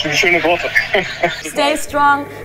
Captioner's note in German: Er lacht